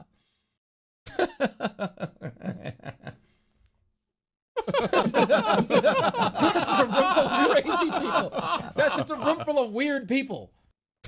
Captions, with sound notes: [normal laugh that turns into something… sinister] [all laughs playing] That’s just a room full of crazy people! That’s just a room full of weird people!